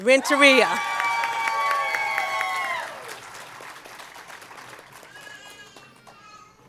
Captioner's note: cheering and Applause